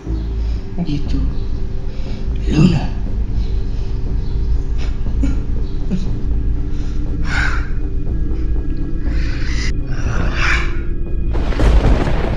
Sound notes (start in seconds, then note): 5.2 cry